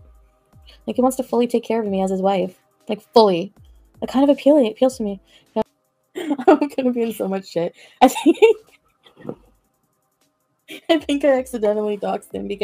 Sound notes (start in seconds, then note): 10.2 laughs